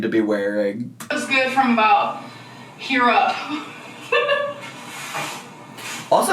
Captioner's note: laughs